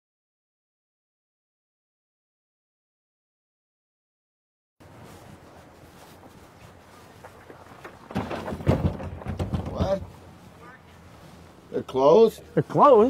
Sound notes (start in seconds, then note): 4.8 feet trampling; 8.0 both banging on door